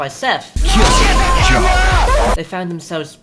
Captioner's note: MLG noises